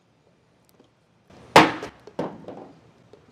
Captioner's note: thunk